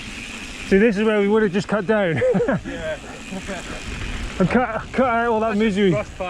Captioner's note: laughs